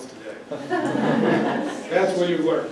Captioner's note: audience laughs